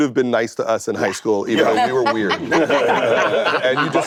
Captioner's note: laughter